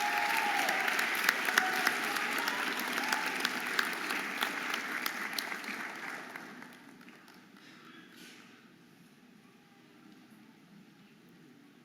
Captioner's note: audience applauding and cheering